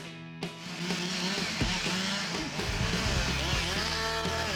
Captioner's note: saw buzzing